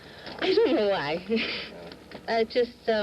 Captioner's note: laughing